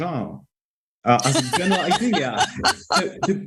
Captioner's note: laughter